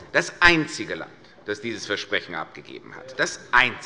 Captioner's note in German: none